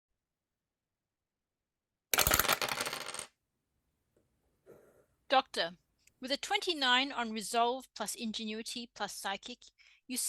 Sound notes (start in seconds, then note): 0.0 some dice roll